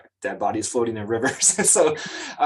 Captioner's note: chuckles